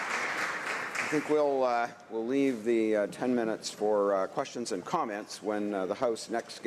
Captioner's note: applause